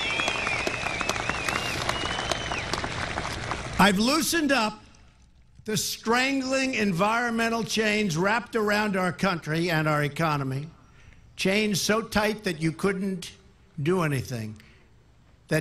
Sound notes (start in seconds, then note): 2.1 applause